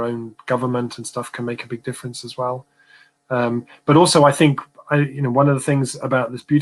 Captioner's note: erm